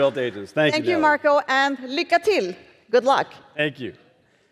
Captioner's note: speaks Swedish